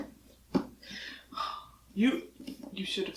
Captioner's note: sighs